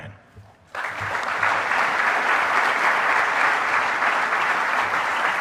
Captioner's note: audience applauding